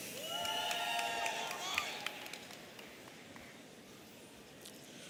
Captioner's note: audience cheering